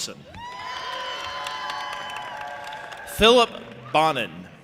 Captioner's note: audience applauding and cheering